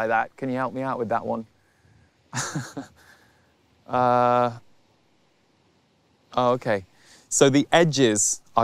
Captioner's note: laughs